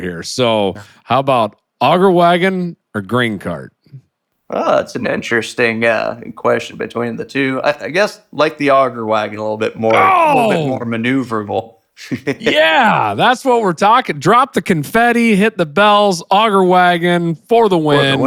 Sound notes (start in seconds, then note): 9.8 laughs